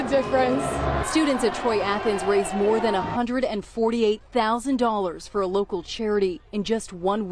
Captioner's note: cheers and applause